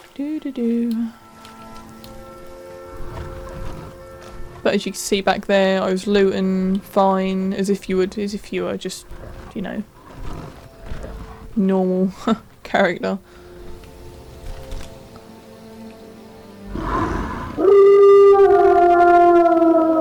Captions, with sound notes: Do do do But as you can see back there I was looting fine as if you would as if you were just ya know normal *laugh* character